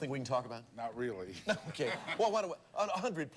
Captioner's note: audience laughing